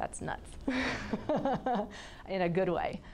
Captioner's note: laughing